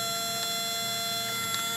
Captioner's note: camera whirling sound; camera clicks off